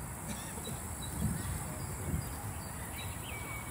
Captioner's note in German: Vogelzwitschern